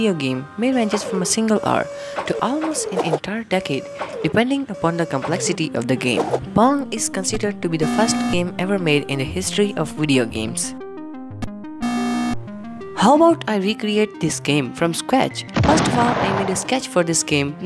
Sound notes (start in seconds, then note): 15.6 boom